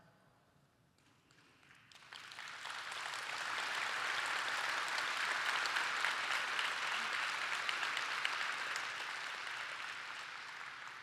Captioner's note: applause